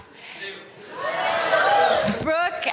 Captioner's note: audience cheering